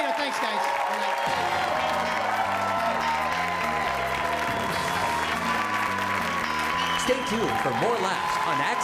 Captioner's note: applause